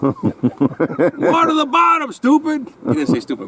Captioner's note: laughs